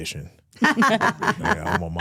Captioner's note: hosts laughing